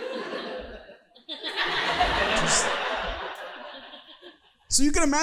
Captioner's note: audience laughing